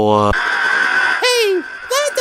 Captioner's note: screech